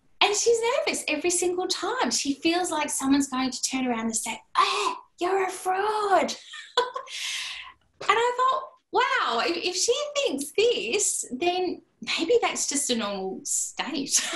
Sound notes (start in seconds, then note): 6.4 laughter; 14.1 laughter